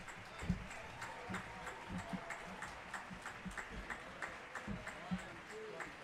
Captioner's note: audience cheering and applauding